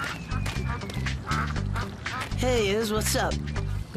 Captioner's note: ducks quacking